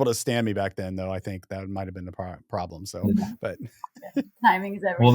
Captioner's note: laughs